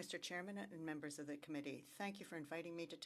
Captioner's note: speaking French